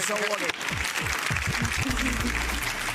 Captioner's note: people clapping